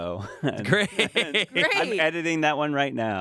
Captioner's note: laughs